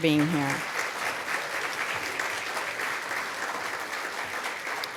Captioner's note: applause